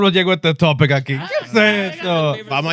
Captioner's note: speaking In Foreign Language